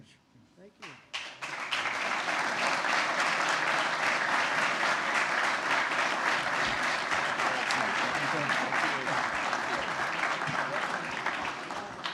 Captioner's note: applause